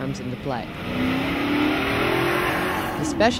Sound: sound of high-performance engine reving up

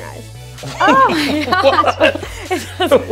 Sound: laughter

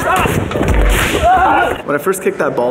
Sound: weak battlecry

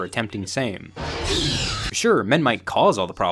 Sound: dinosaur roars

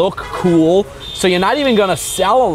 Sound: vehicles honking

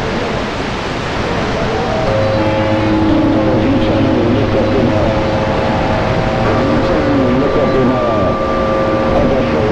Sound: tones

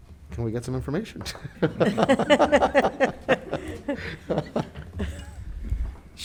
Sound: board members laughing

